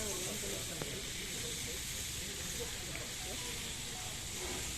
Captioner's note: serene sounds of nature and gardening